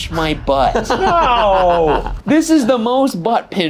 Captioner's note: laughing